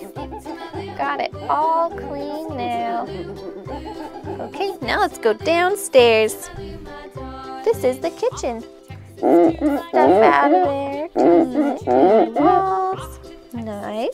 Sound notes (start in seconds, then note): 9.3 rag cleaning